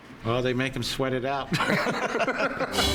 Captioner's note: laughs